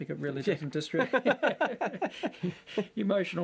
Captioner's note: laughter